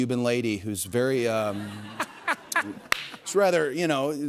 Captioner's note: laughter